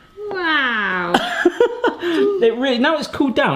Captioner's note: laughing